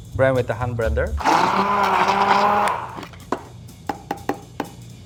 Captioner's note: blender whirling